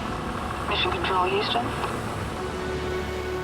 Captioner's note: astronaut over radio